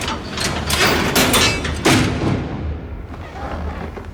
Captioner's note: cell door clinking